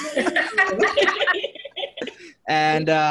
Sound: everyone laughing

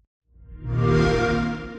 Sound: xbox whoosh

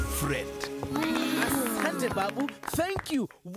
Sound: clapping

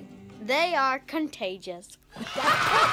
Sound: crowd cheers

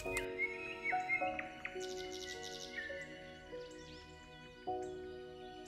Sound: sugar sprinkles against parchment paper; birds signing quietly

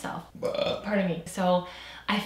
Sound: burps

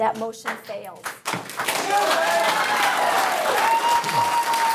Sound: audience cheering

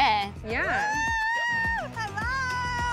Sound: screams

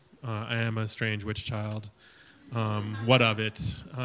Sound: audience chuckles

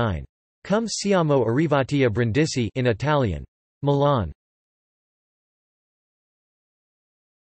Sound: in Italian

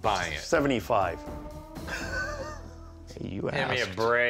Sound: chuckle

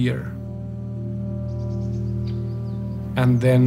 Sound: solemn music; birds chirping

